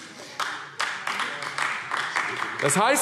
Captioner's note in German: Beifall AfD